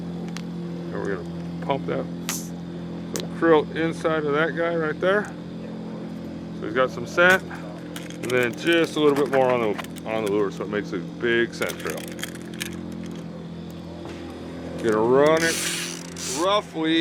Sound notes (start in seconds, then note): 11.7 rattling; 12.7 reel spinning